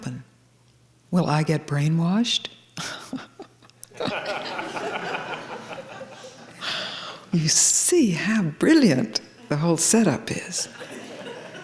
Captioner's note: laughter